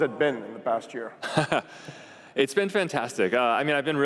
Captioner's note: laughs